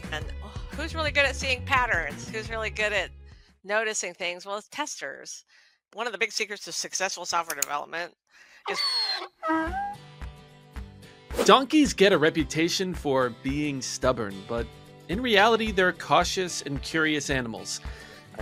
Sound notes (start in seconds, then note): 8.6 donkey braying